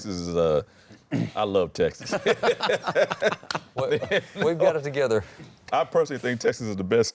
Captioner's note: laughter